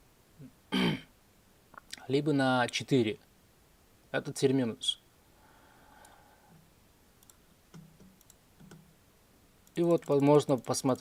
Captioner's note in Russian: откашливается